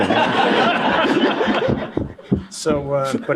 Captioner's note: laughter